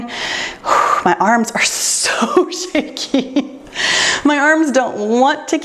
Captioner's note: exhales deeply; laughs